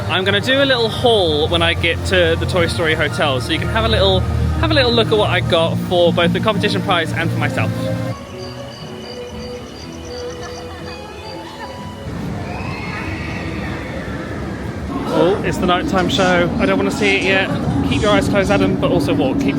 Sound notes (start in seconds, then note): 8.5 light music; 10.3 crickets chirping